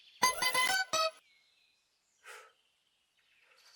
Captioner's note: bell chimes